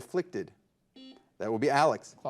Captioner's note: buzzer buzzes